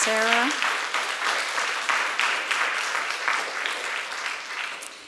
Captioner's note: applause